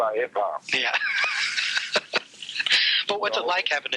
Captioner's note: laughs